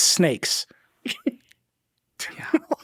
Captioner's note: chuckles